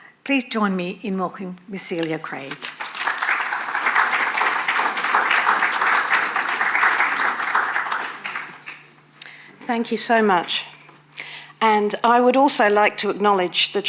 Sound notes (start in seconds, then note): 2.6 audience applauding